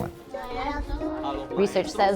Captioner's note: teacher and students speaking Spanish